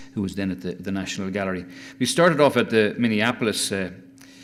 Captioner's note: none